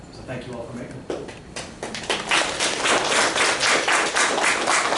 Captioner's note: applause